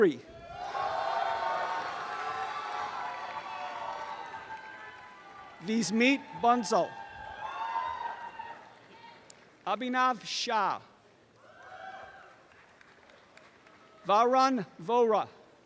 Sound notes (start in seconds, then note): 0.4 applause and cheering; 7.0 audience cheering; 11.4 audience cheering and applause